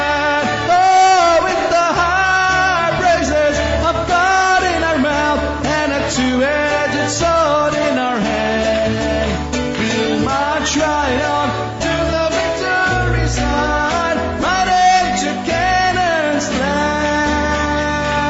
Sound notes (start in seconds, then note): 6.6 చప్పట్లు